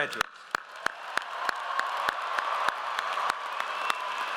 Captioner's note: audience applauds